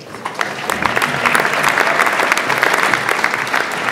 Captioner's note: audience applauds